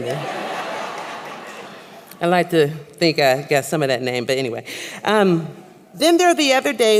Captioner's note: laughter; laugther